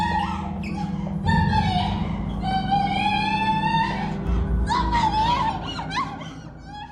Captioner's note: screaming